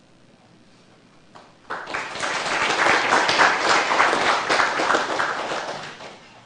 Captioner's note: audience applauding